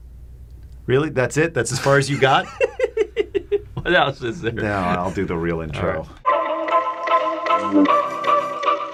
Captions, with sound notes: Really that's it? That's as far as you got. (laughs) What else is there? I'll do the real intro. (soft music)